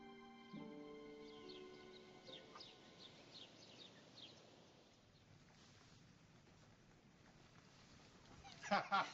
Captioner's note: birds Singing; laughter